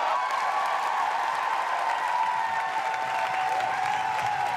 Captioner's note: audience cheering